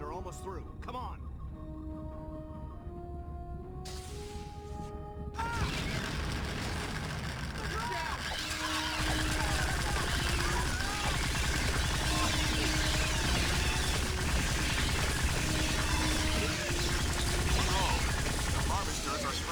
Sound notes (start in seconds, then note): 5.4 screams; 12.6 electronic sounds